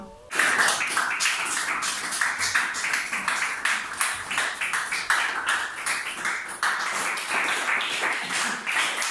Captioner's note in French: Applaudissements